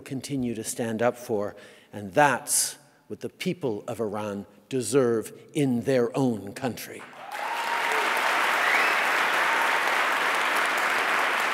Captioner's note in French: Applaudissements